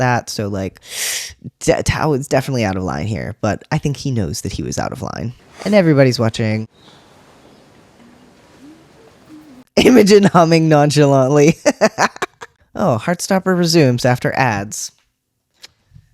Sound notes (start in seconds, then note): 12.2 laugh